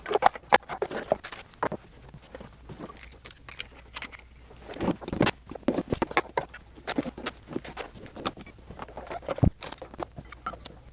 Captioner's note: sawing